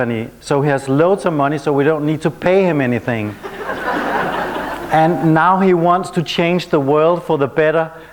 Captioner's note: laughter